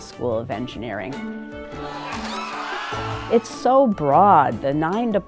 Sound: applause

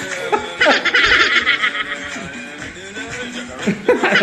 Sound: manic laughing

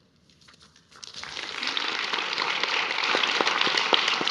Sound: attendees applauding

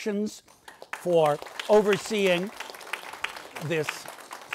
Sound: audience applauds

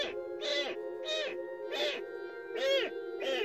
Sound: cat's crying

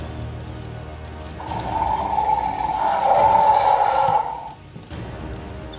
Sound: dinosaur Roars

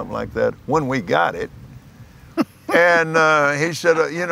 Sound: laughs

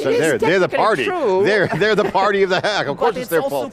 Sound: chuckling

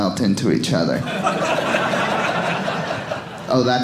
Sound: audience laughing

